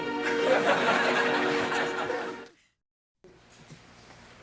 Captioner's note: audience laughing